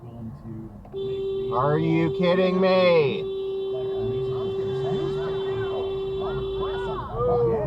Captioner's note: beeeeeeeeeeeeeeeeeeeep